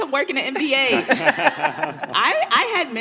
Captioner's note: all laughing hysterically